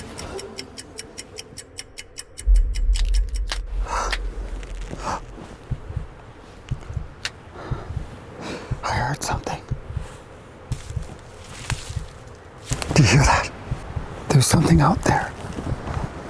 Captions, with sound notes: (Clock ticking) (Crackling branches) (Startled breathing) I heard something. (Rustling leaves) Do you hear that? There was something out there.